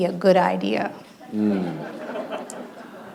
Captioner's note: laughter